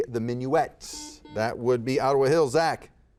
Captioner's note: buzzer buzzes